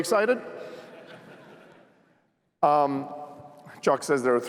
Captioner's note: laughter